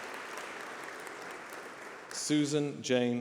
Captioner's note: applause